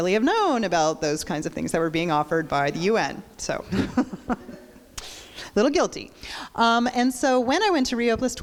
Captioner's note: crowd laughs